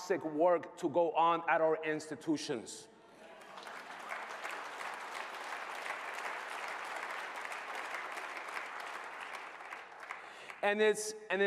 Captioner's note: applause